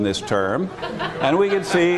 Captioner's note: laughter